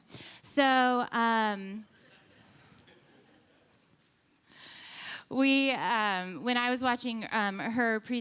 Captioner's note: laughing